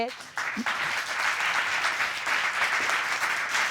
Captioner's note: audience applauds